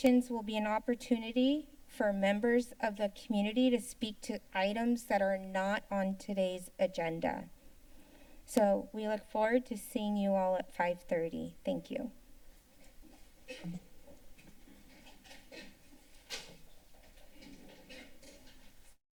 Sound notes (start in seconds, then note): 7.6 silence; 12.4 rustling sound; 12.6 chairs shuffling; 18.9 silence